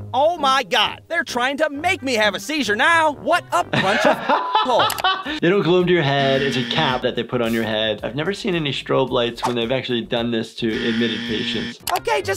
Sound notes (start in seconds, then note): 3.7 laughter; 6.2 buzzer; 6.2 beep; 10.7 buzzer